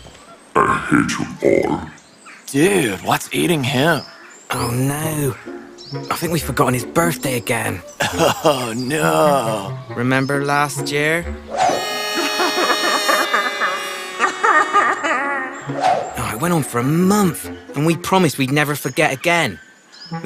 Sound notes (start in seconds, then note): 7.8 chuckles; 11.9 cries